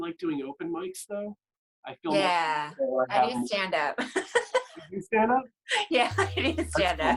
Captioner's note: laughter